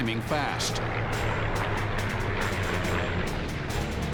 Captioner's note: engine roaring